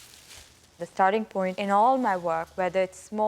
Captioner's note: paper crinkling